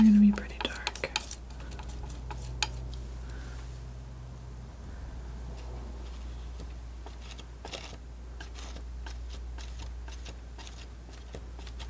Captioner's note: scratching